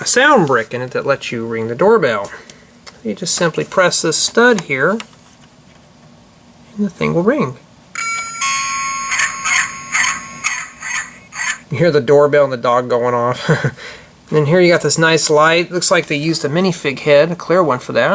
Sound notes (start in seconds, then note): 8.0 door bell rings ... Dog barks